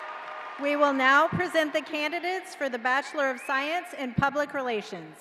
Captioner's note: cheering